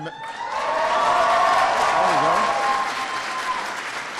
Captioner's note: applause